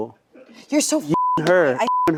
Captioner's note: beep